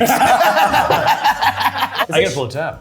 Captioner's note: everyone laughing